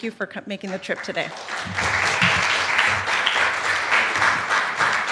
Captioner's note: applause